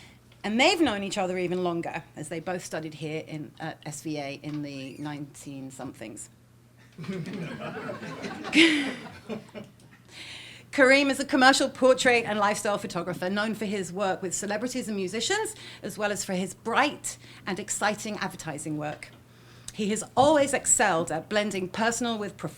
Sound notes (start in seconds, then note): 6.9 laughing